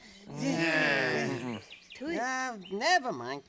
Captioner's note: unintelligible grunting